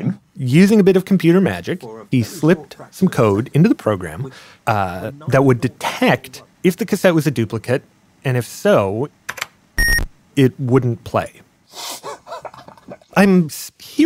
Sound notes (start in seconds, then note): 8.8 computer game sounds